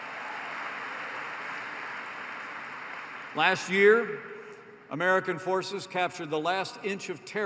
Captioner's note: applause